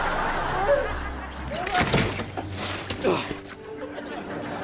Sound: moaning

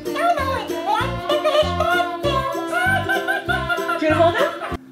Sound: Elmo talks and laughs

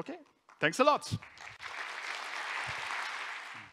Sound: applause

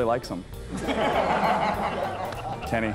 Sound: laughter

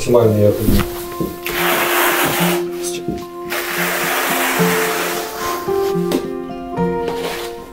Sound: construction sounds

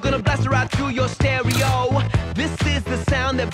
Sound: camera clicks

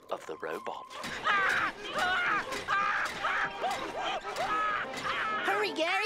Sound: screaming

